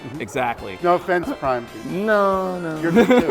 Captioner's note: laughs